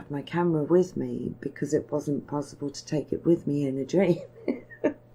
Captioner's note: laughing